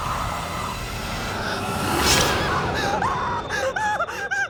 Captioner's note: screams